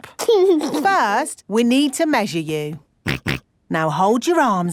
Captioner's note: snorts